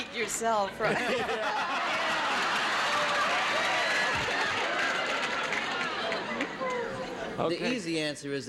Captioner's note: audience laughing